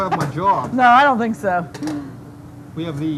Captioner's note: laughs